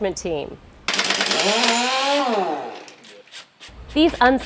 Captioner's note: repair noise